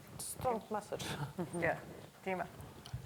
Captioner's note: laughs